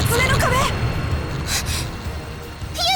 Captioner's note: gasp